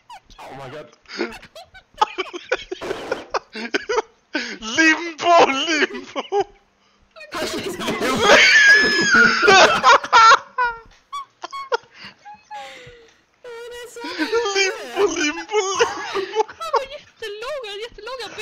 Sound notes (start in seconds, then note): 1.1 crying laughing; 7.2 panics